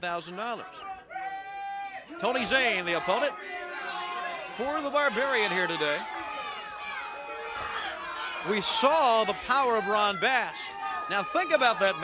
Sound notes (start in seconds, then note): 2.8 crowd chatter; 9.3 crowd chatter